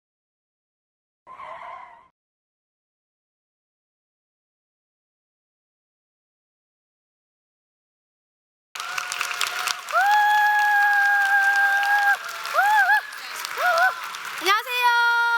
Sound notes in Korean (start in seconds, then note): 8.7 박수